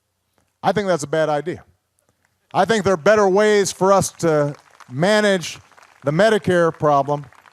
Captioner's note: applause